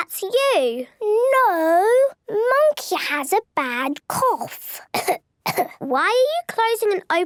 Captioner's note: pretending to cough